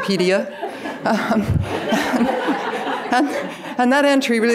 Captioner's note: audience laughing